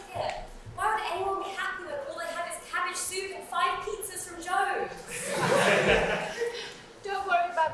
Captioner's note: audience laughs